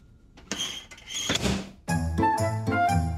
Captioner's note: oven door banging; lively music